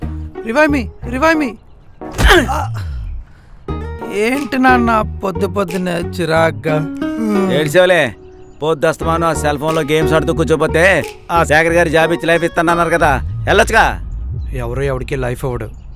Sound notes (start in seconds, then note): 7.1 Nandan yawns